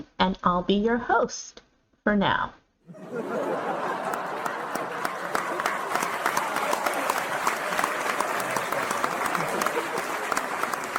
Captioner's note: audience laughter